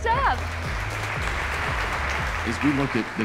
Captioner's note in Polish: oklaski